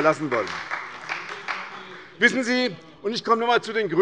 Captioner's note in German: Beifall bei der SPD und der LINKEN